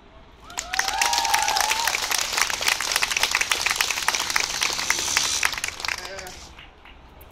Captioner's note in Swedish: Applåder